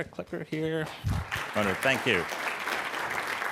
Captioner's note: clapping